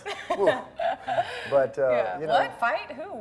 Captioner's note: laughing